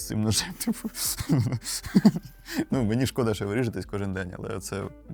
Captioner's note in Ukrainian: сміх